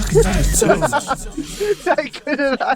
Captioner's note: laughter